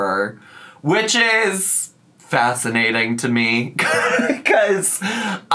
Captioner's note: laughs